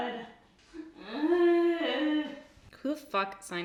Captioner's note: groans